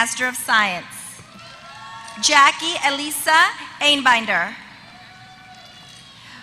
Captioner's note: applause